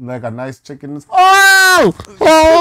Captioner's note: screams